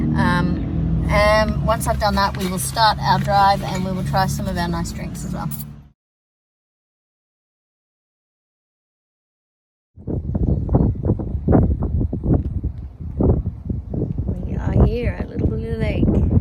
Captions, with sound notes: Um, and once I've done that, we will start our drive and we will try some of our nice drinks as well. [blustery wind] We are here at Little Blue Lake.